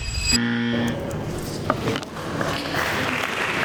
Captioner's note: buzzer; applause